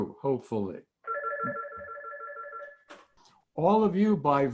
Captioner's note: phone ringing